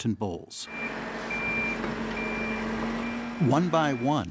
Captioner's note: equipment beeping